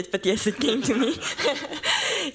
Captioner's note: laughter